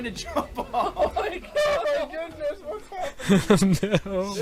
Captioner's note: laughing